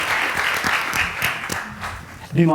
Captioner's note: applause